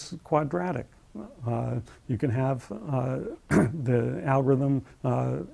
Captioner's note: cough